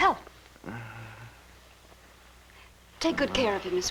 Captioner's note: groaning